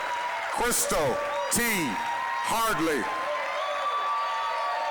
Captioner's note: applause, cheering